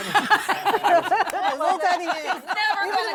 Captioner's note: laughter